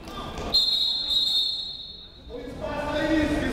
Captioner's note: whistle